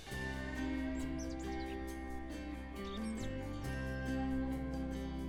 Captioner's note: birds chirping, gentle music